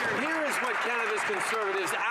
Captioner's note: some Applause